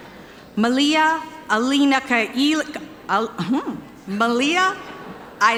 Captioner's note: stuttering